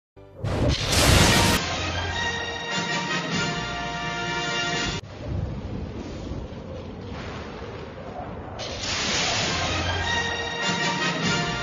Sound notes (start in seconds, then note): 0.4 lightning zapping as rousing fanfare plays; 5.0 thunders rumbling; 8.6 lightning zapping as rousing fanfare plays